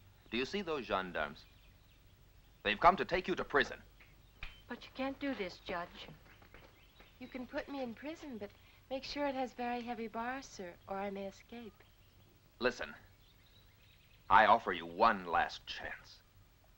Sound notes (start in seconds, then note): 4.2 fingers snapping